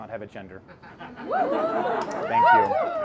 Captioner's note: audience applauds